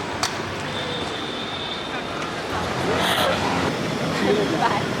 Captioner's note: distant street noise